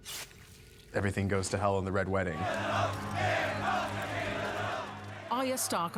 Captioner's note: chanting